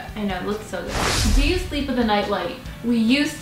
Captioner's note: rush of air